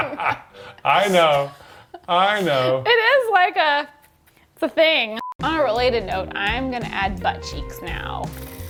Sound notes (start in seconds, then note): 5.1 screen beeping